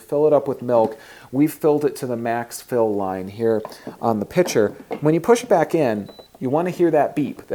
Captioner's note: machine beeps